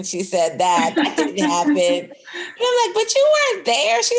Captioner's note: laughter